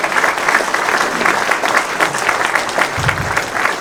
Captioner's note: applause